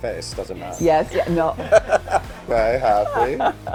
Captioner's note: both laugh